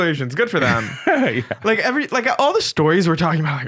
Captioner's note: laughing